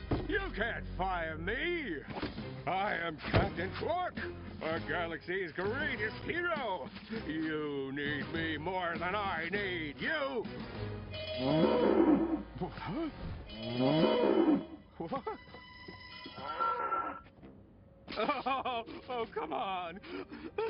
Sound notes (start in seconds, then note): 11.3 mooing; 13.5 mooing; 16.4 mooing; 18.1 sobbing